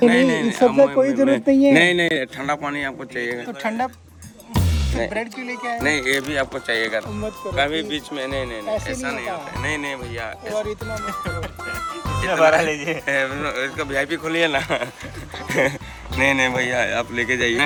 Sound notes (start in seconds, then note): 9.0 speaking foreign language